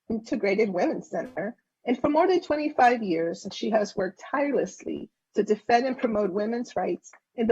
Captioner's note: spanish